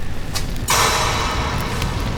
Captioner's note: bang